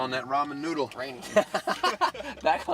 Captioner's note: laughter